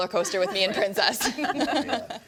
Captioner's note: everyone laughing